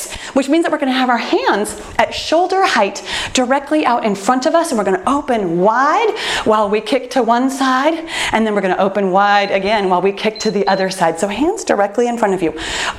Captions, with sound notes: which means that we're going to have our hands at shoulder height directly out in front of us. We're going to open wide while we kick to one side and then we're going to open wide again, [timer beeps] while we kick to the other side. Hands directly in front of you.